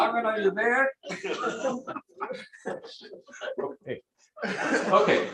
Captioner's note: laughter